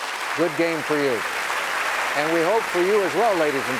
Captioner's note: applause